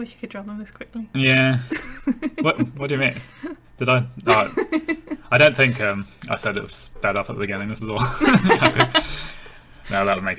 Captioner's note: laughing